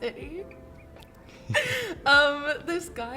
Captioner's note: laughter